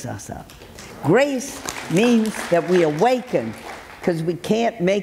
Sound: audience clapping

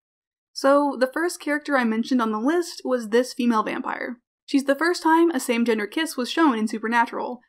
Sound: none

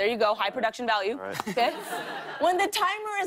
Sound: laughter

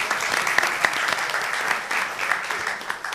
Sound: applause

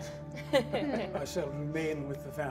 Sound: all laugh

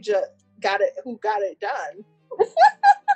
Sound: laughs

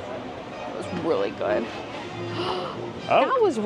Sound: gasping

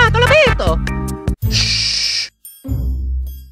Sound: Dovahkkin shushes again

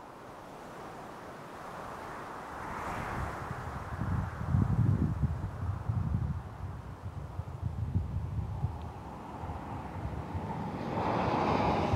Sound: wind howling

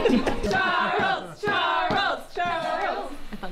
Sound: chanting

